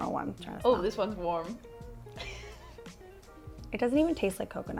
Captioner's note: laughs